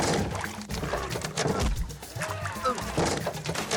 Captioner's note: TV static; crocodile growling